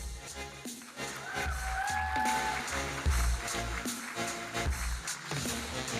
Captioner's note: audience cheering and applauding